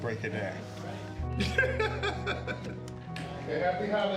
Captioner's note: laughs